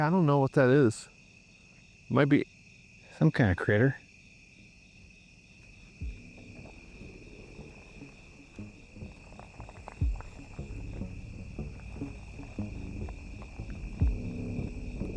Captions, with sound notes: Yeah, I don't know what that is. It might be some kind of critter. [tense music] [crickets chirping]